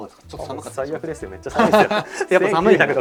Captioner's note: laughs